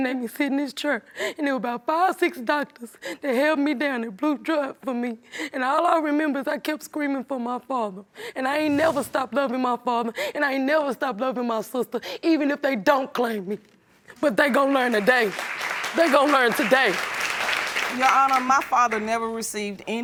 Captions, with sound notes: and there were about five or six doctors, they held me down and drew blood from me. And all I remember was I kept screaming for my father. And I ain't never stopped loving my father, and I ain't never stopped loving my sister, even if they don't claim me. But they're gonna learn today. They're gonna learn today. (AUDIENCE APPLAUDING) Your Honor, my father never received any paperwork